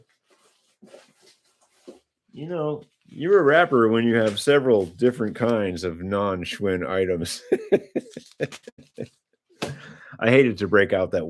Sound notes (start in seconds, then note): 7.4 laughter